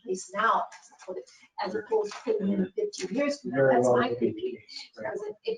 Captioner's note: speaking faintly